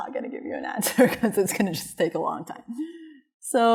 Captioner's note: laughter